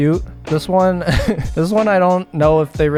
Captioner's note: laughs